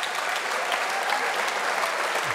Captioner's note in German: Applaus